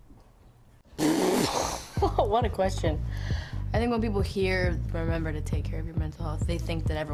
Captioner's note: laughs